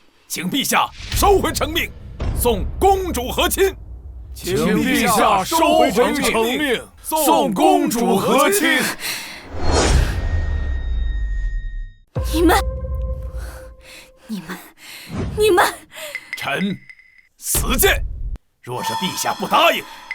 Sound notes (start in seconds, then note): 9.0 gasp; 12.0 thud